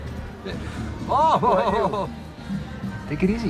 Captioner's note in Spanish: Risas